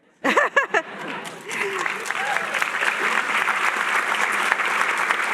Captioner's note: chuckle